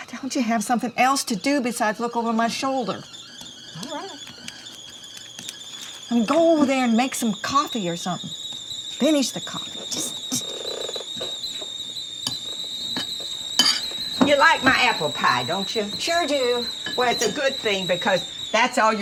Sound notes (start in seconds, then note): 3.2 kettle whistling; 11.1 kettle continues whistling